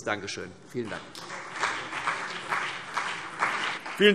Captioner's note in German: Beifall CDU und BÜNDNIS 90/DIE GRÜNEN